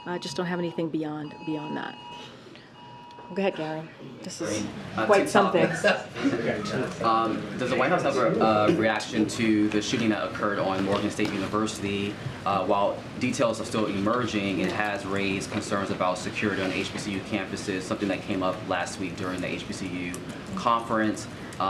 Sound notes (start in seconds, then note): 5.5 laughter